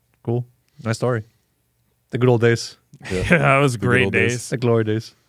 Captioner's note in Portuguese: risos